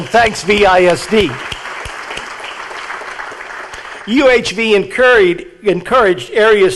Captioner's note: audience applauding